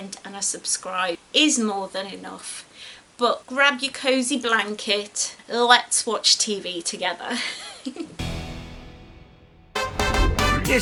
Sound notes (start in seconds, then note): 7.3 giggles; 9.6 jazzy music plays